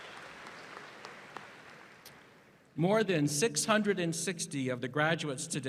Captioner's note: applause